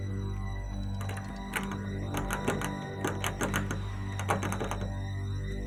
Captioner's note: doorknob jiggling; suspenseful music